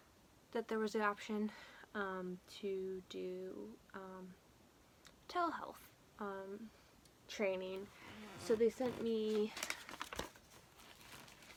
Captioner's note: papers rustle in the background